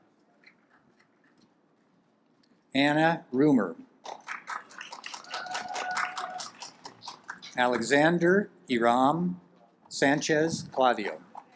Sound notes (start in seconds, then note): 4.0 audience applauds; 11.3 audience applauds